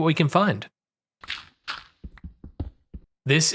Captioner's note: digging